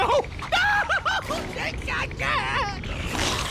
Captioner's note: groans